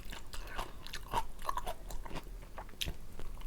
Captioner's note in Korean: 아삭 아삭 소리 너무 상쾌해